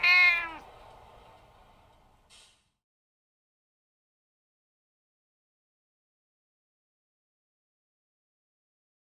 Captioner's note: meow!